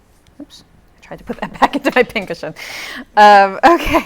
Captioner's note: laughs